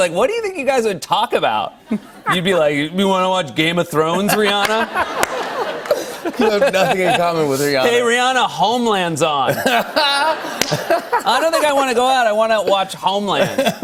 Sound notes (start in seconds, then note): 4.1 laughter; 9.5 laughter